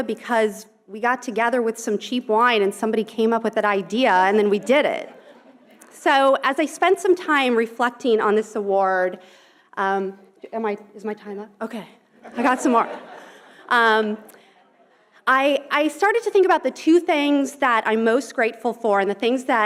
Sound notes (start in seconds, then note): 4.6 audience chuckling; 12.2 audience laughing